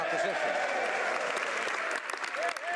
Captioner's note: speaking French